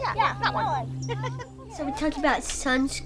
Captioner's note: chuckles